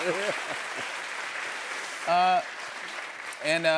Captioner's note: cheers and applause